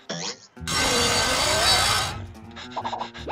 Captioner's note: buzz saw grinding; panting